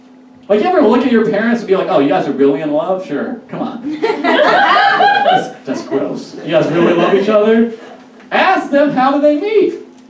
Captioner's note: audience Laughs